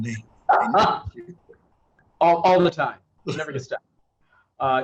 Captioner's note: laughs